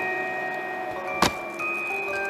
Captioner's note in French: Thud; Creepy Music